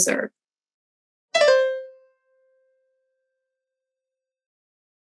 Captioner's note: computer chimes